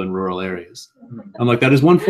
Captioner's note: laugh